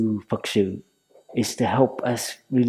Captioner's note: Vietnamese